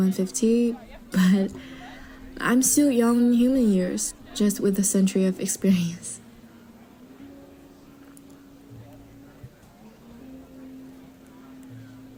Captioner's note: chuckle